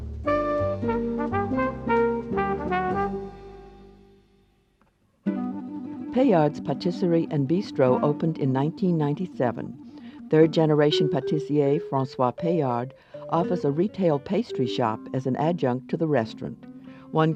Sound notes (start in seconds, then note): 0.0 light jazz music; 6.1 voiceover